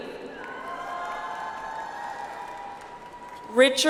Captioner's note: audience applauds